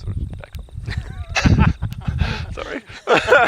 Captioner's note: laughter